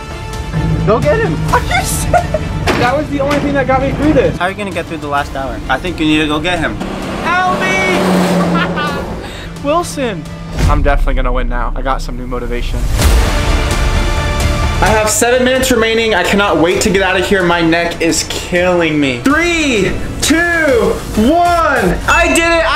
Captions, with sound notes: - Go get him. - I can't (laughs). That was the only thing that got me through this. - How are you gonna get through the last hour? - I think you need to go get him. (truck engine roars) Help me (laughs). Wilson, I'm definitely gonna win now, I got some new motivation. (suspenseful music) I have seven minutes remaining, I can not wait to get out of here, my neck is killing me. three, two, one, I did it.